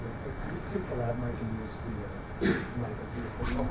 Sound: speaks faintly

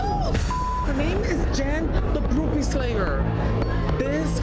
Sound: beep

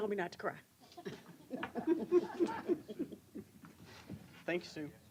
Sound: laughter

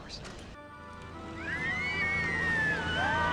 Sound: kids screaming

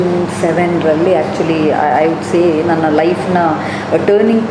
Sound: factory noise in background

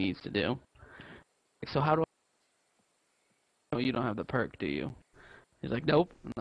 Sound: cuts out

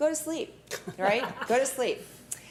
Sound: laughing

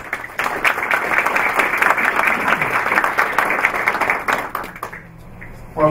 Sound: applause

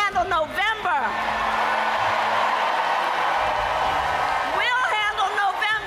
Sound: audience applauds and cheers

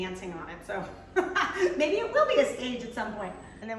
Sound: woman laughs

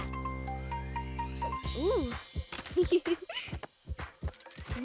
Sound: giggling

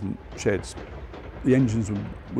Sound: train rumbling

